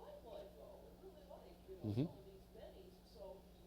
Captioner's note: speaks faintly